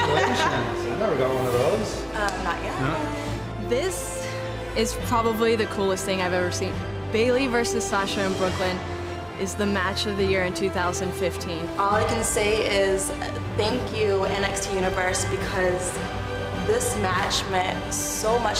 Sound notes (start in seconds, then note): 0.0 laughter